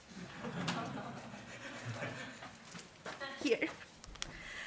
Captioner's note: audience giggling